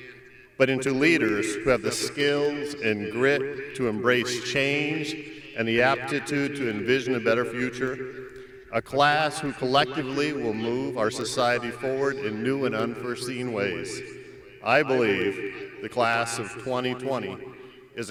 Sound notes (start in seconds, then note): none